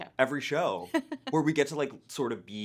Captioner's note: laughing